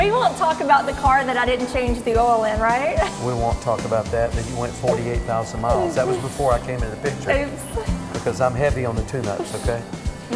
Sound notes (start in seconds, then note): 7.6 laughter